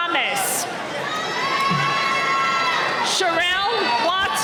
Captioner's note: cheering